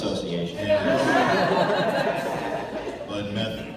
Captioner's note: laughter